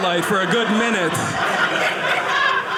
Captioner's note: audience laughing